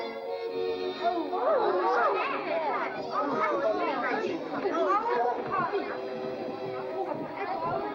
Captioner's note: exasperated chatter